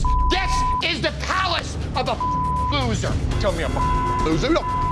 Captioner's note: beep; beep